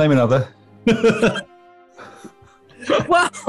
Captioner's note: laughter